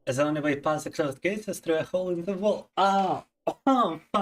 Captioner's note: speaking in Russian